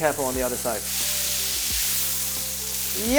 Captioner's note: sizzling sound